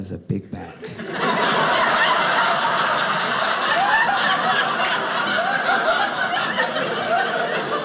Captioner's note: audience laughing